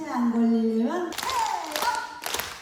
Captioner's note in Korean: 박수